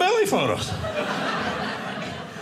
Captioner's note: audience laughing